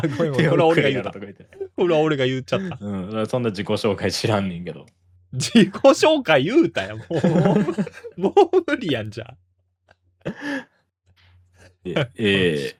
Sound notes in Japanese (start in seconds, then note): 6.6 笑い; 10.3 息をのむ音